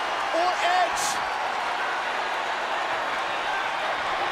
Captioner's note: crowd cheering